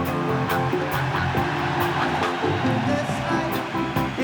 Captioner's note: crowed cheering